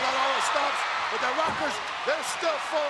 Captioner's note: audience cheering